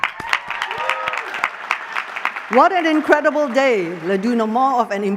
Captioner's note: applause